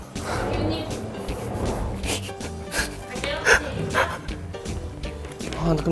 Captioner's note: can't help laughing